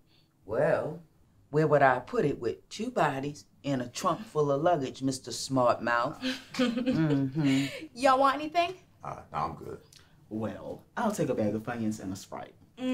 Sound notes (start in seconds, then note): 6.2 jessica giggles